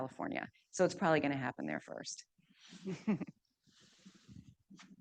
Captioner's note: chuckles